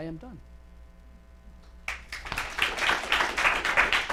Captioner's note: applause